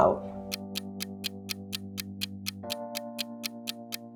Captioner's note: ticking